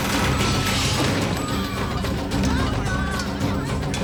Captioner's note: onlookers screaming